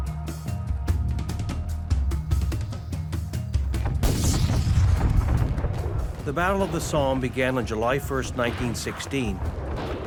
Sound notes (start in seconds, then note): 0.1 dramatic music; 3.8 artillery firing